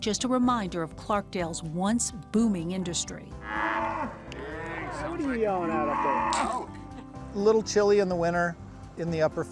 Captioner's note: cow moos